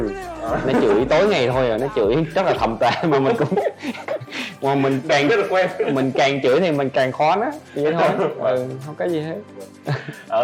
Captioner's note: laugh